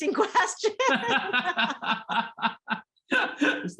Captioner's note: laughter